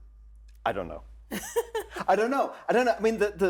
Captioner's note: laughs